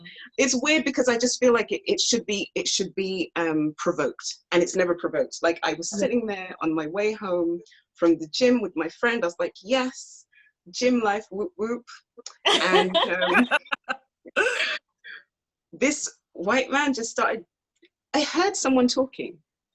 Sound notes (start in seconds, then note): 12.4 laughs